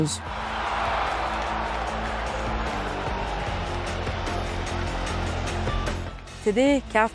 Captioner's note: crowd cheering